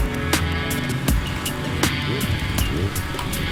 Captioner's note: engine approaching